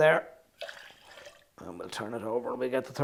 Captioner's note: liquid sloshing